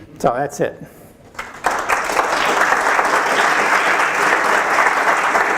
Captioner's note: audience applauding